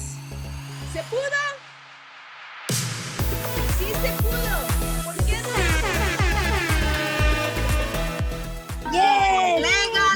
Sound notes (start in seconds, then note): 5.2 horn blows